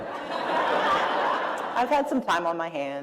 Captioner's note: laughter